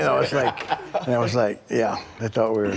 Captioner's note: Bron laughing